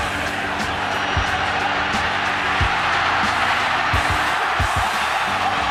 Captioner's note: cheering